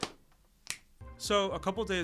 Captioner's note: plastic clicking; finger snaps